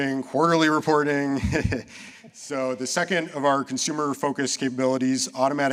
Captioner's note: chuckles